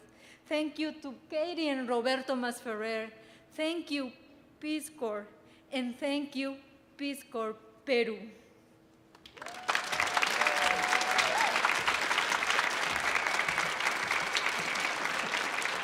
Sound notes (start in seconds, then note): 9.2 audience applauding